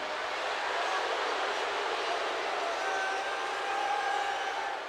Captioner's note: crowd exclaiming